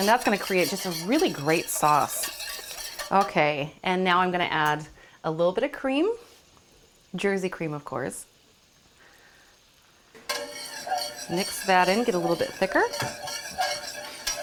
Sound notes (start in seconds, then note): 10.2 whisk scrapes pan